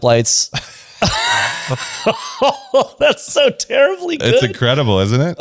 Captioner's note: laughs